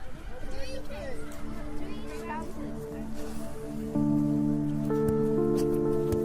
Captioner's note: kids chatting indistinctly; gentle music